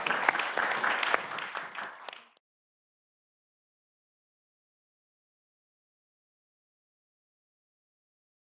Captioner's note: applause